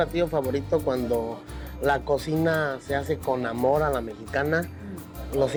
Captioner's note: continues speaking Spanish